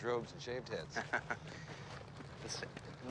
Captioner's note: chuckles